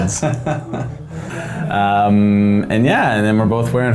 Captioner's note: laughs